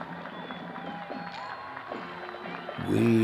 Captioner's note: crowd cheering